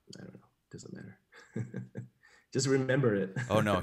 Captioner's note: chuckles